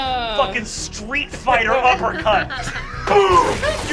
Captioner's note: splattering